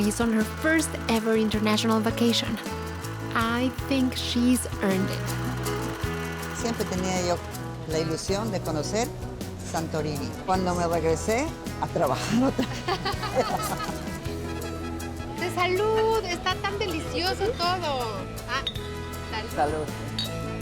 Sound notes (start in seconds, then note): 6.6 speaking Spanish; 12.2 both laugh; 16.1 speaking Spanish